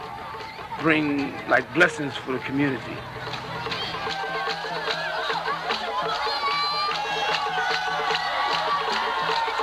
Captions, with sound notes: Bring like blessings for community. (Energetic music) (people cheering)